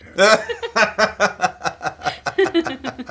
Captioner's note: laughter